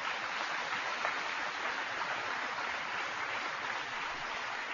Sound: applause

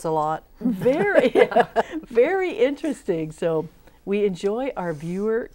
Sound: laughing

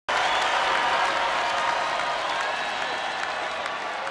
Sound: audience cheering

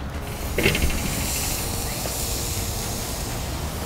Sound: sizzling

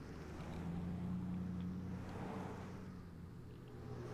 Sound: traffic roars

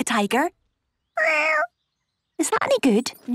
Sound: small meow

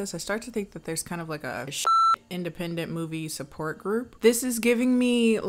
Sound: beep

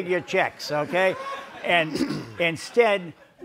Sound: audience laughs

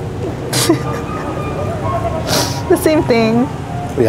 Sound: laughs

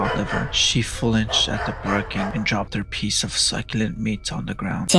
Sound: bark

